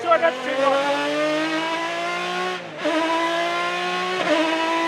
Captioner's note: engine roaring